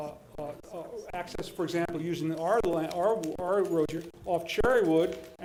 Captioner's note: stutters